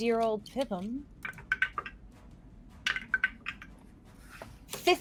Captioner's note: dice rattling